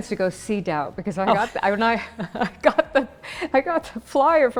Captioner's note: both laughing